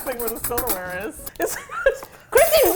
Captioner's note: laughs